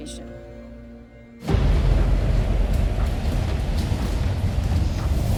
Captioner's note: wind gushing